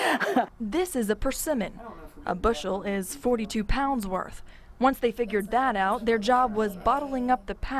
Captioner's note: laughing